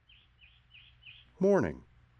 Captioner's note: birds chirping